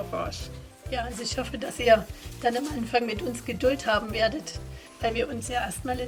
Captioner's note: in German